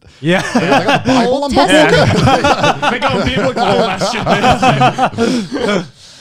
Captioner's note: laughing